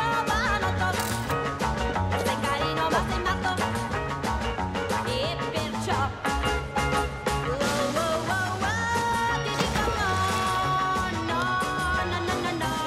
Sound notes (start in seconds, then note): 1.0 shutter clicks